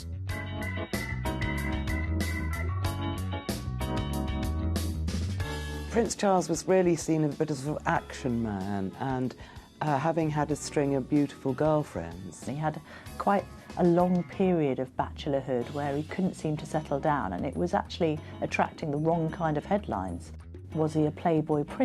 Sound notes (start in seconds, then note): 0.0 upbeat music; 5.7 voiceover